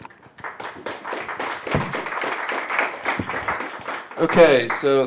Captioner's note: applause